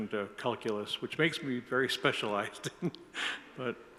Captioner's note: laughs